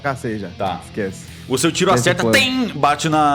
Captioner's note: ching